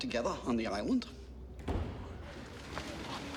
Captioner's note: thump